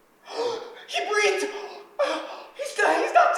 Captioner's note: gasps